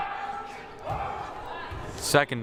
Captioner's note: crowd murmuring